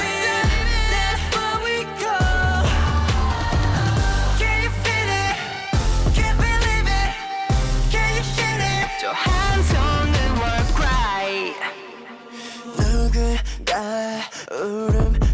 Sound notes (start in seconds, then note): none